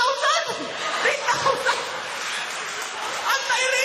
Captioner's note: laughter